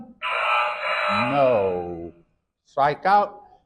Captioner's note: error sound effect